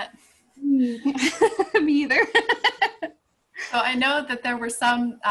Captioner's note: laughing